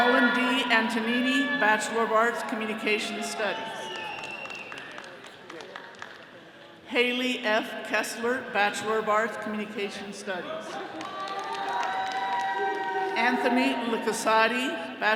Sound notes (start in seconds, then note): 10.6 attendees cheering